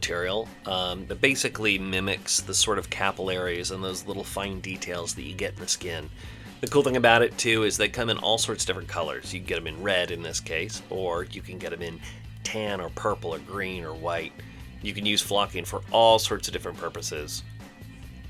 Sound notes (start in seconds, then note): none